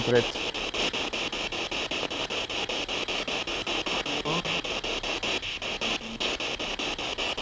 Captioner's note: noise of the spiritbox in the background